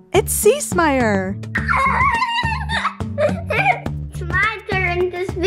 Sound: laughs

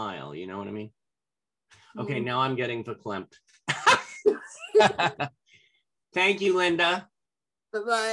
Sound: laughter

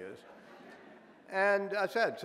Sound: audience laughing

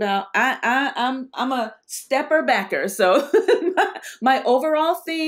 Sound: laughs

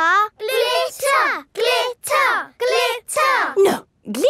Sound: chanting

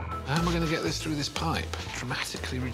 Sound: pipe clattering on the floor

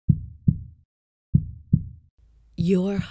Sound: heart beating

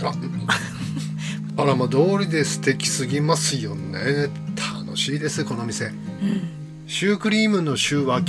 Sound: laughs

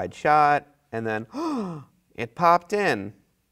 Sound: gasps

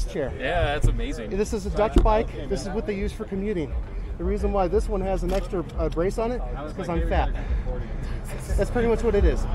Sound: chuckles

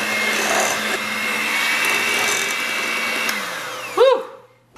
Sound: blender whirling

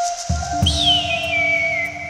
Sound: bird shrieks

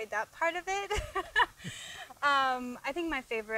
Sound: laughing

